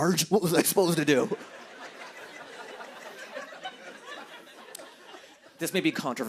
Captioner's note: laughter